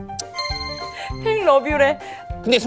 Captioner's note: Smooch